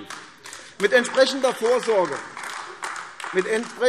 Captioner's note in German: Beifall AfD